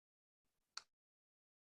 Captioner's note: click